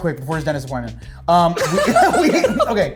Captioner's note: laughs